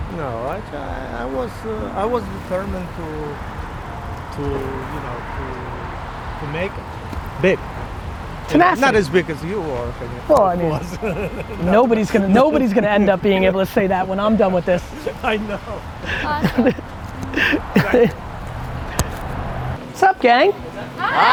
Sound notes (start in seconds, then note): 14.5 laughing